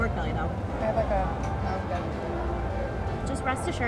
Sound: murmurs

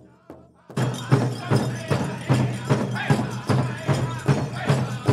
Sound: regalia ornaments jingling

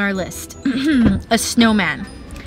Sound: clears throat

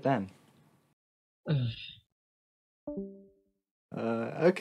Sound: sigh

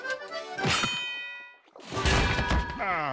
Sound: bell ringing; moaning

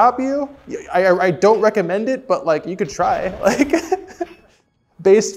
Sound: chuckling

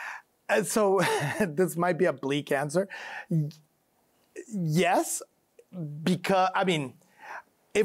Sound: chuckles

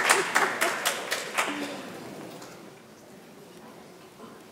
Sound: laughing

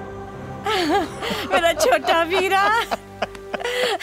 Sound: laughs

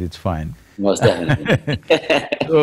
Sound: both laugh

